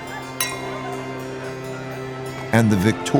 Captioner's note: glasses clink